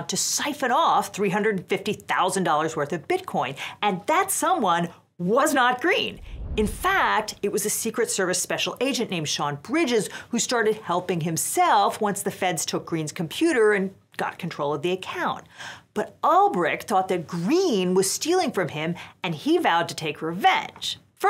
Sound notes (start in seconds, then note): 6.0 air whooshes